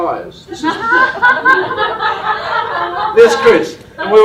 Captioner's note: laughter